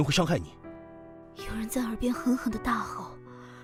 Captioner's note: someone is shouting furiously in my ear